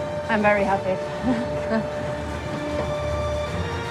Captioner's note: chuckles